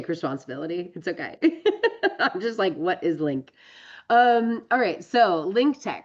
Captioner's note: laughs